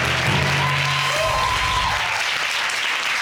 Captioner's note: audience clapping and cheering